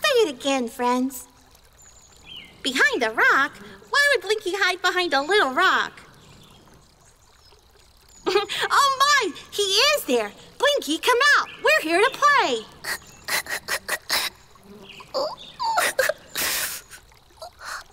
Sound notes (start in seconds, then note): 13.0 Blinky sobbing